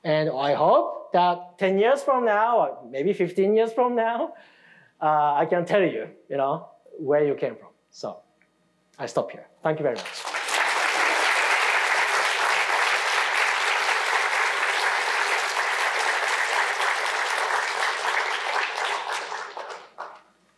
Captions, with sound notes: And I hope that 10 years from now or maybe 15 years from now, I can tell you where you came from. So I stop here. Thank you very much. (audience applauding)